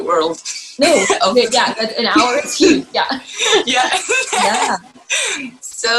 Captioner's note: laugh; laughs